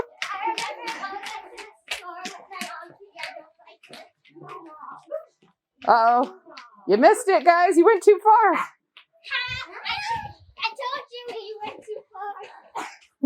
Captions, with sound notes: [excited kiddo chatter] Uh oh! You missed it, guys. You went too far I told you, you went too far!